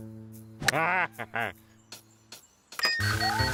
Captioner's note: chuckles